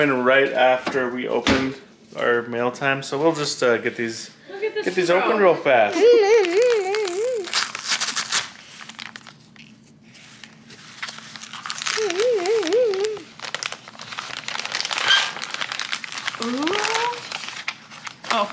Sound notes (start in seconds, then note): 7.8 paper tearing; 15.1 plastic rustling